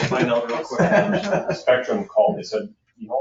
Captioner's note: laughing